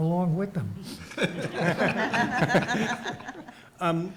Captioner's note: audience laughs